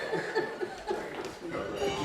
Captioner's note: laughter